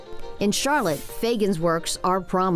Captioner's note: air whooshing